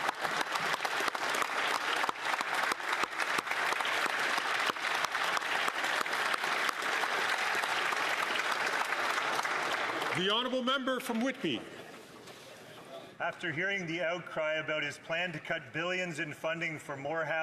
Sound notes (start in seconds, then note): 4.7 some Applause